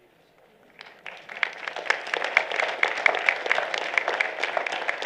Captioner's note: applause